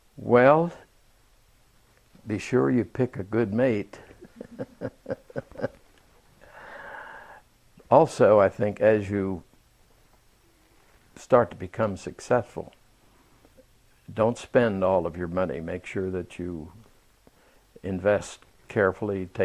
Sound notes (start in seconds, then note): 4.0 laughs